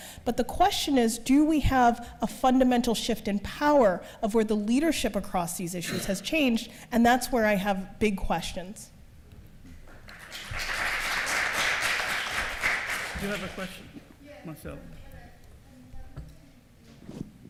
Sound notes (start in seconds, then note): 9.9 applause